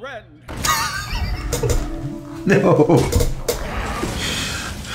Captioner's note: laughs